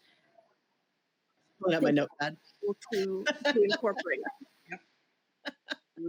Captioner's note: laughs